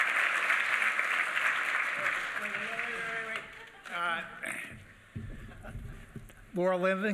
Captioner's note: applause